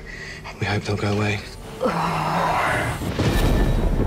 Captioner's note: groans